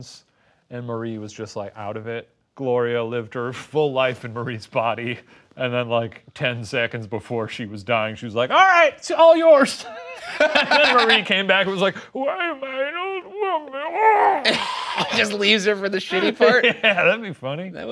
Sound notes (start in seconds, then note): 9.9 both laughing; 14.2 gargling noises